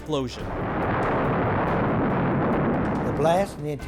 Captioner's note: thunderous rumbling